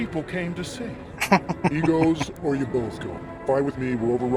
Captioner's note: chuckling